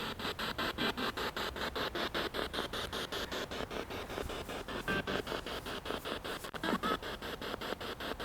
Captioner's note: noise of the spiritbox in the background